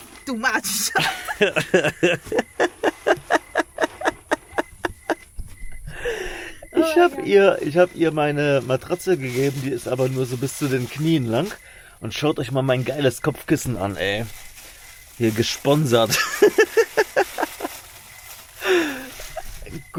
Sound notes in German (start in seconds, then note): 0.0 gelächter; 5.9 japst; 18.8 gelächter